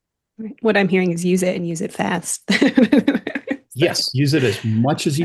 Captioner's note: laughs